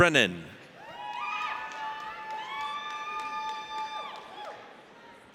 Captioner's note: audience cheers